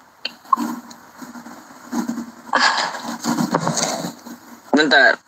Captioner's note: laughs